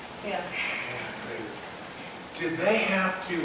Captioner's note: crowd mumbling